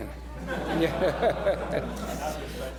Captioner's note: laughter